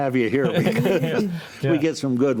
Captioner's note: group laughs